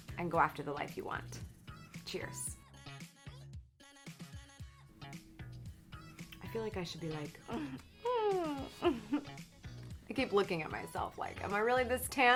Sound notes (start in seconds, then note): 2.9 upbeat music; 7.4 hums